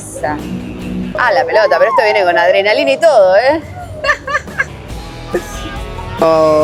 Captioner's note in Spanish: risas